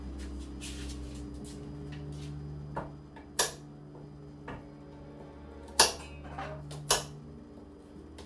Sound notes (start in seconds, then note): 3.3 knife thuds